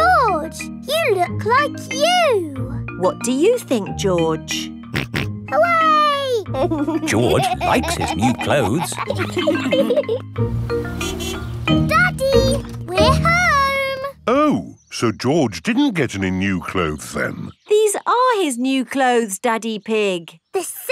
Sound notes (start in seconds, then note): 6.5 snorts and laughs; 10.8 horn honks